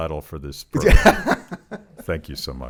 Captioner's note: laughs